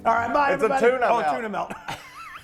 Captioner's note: laugh